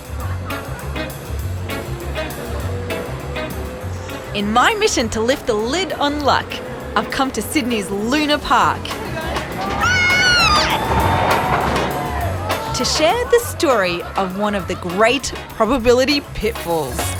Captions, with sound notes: In my mission to lift the lid on luck I've come to Sydney's Luna Park... (SQUEALS) ..to share the story of one of the great probability pitfalls.